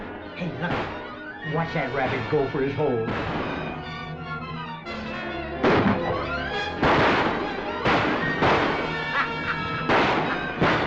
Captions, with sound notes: Lucky, watch that rabbit go for his hole. [ GUNSHOTS ] [ WINDY CHUCKLES ]